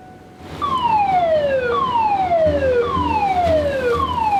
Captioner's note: alarm blaring